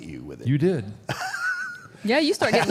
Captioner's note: AJ laughs